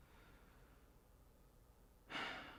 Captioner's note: sighs